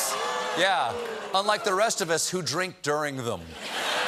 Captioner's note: audience reacts